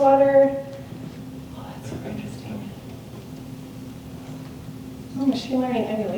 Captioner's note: whispers